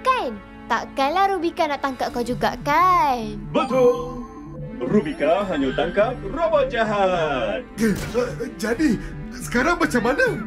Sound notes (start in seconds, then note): 3.6 Mechanizer chimes